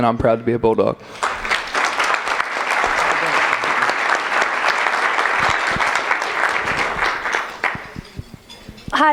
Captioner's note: applause